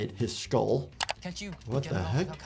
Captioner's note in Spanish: clic del mouse